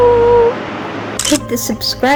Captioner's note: photo click